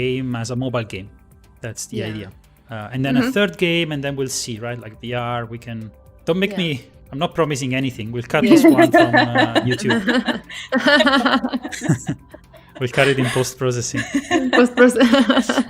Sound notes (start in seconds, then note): 10.0 laughter; 15.1 laughs